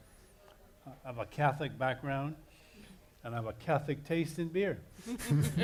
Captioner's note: laughter